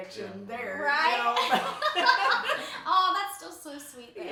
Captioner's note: laughs